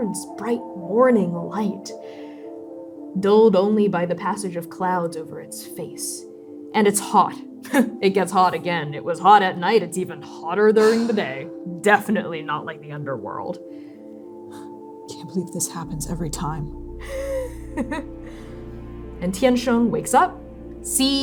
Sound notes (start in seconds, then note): 7.5 chuckling; 11.7 suffering sigh; 17.1 laughing